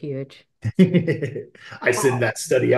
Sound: laughs

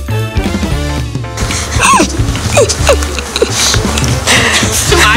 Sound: laughter

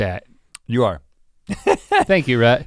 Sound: laughs

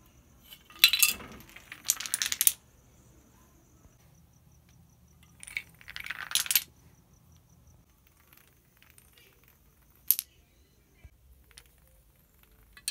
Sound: dominoes falling

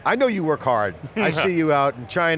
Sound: laughs

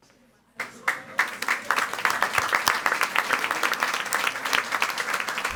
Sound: audience applauding

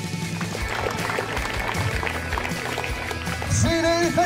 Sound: clapping hands

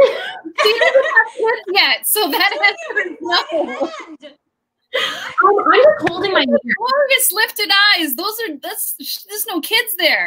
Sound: laughter

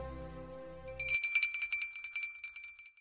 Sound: bell jingling

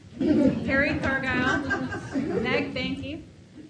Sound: audience laughs

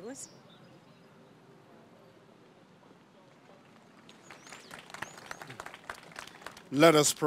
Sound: applause

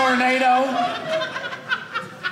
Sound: audience laughing

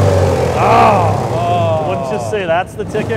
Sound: loud grinding

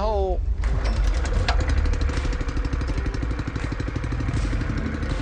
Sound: rumbling engine

